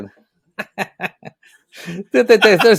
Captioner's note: laughing